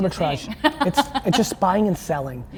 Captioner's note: laughing